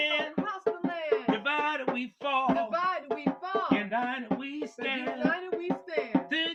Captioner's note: echoing; echoing